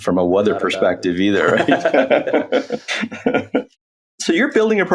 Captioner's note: both laughs